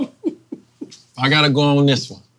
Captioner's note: laughing